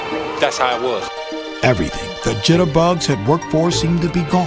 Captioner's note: voiceover